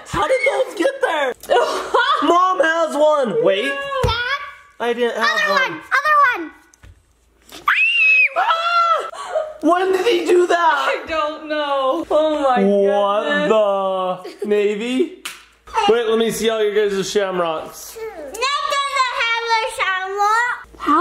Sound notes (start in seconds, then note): 7.6 screams